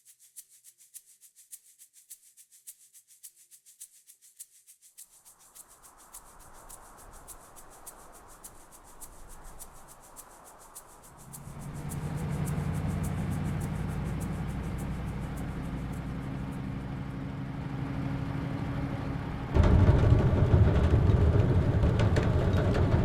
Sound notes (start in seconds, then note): 0.3 gentle maraca music; 6.0 wind blows; 12.9 engine runs; 19.9 engine runs loudly